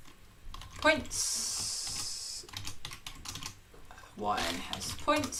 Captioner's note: keyboard clicking; keyboard clicking